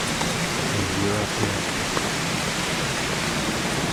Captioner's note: footsteps; airplane Overhead